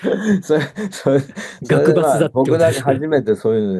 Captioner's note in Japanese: 笑い